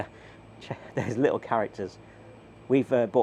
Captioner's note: laughs